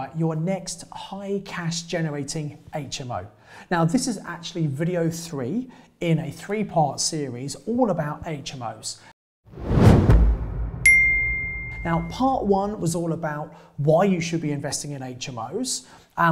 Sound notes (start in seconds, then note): 9.5 logo swooshes; 10.8 logo chimes